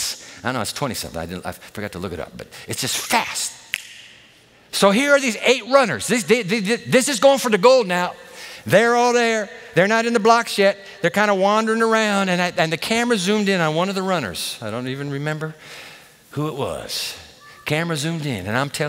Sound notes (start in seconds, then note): 3.7 snaps fingers